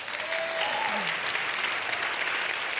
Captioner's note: applause